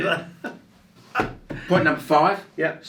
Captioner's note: laughing